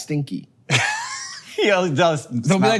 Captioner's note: Hank chuckles